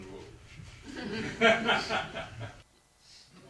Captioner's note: laughter